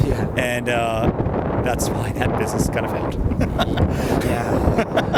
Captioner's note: laughs